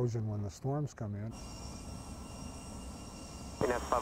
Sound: jet flying

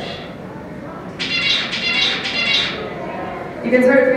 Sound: bird song

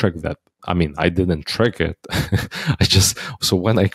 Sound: laughs

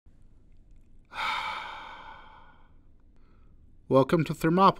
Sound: breathing deeply

